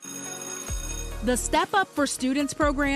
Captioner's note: bell ringing